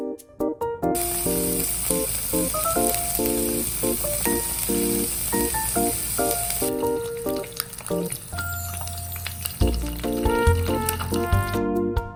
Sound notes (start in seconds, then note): 0.9 cooking/sizzling asmr